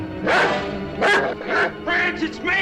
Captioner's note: dog barking